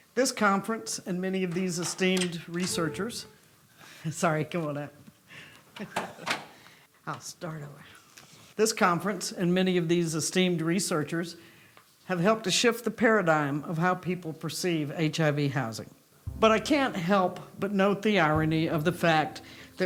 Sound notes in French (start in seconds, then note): 2.5 ouverture de porte; 5.8 gloussements